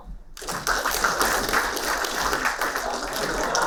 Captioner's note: applauding